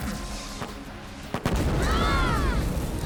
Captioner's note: screaming